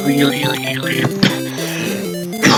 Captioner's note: cough